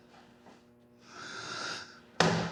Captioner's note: inhales